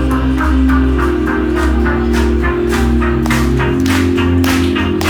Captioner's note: audience claps along